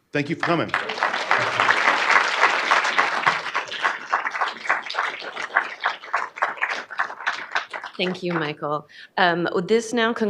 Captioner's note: applause